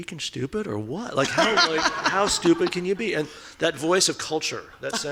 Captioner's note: laughing